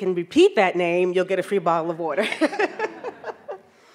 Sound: audience laughs; laughs

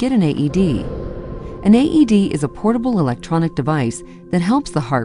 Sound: sound effects

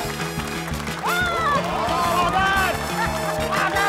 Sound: cheering, applause; exclaims

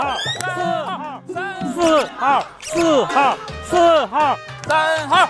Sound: energetic shouts from the vendors

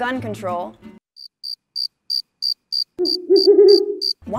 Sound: crickets

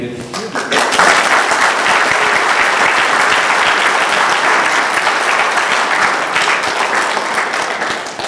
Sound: applause

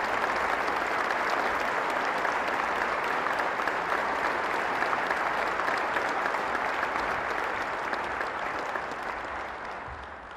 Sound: applause

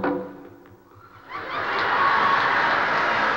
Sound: applause

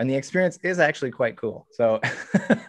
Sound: chuckles

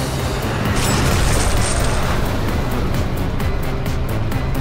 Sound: metal crunches

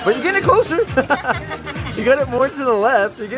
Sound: laughing

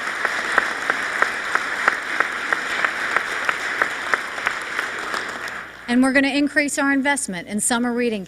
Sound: applause

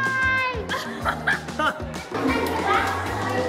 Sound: laughter

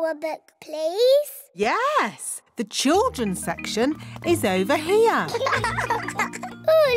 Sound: laughter

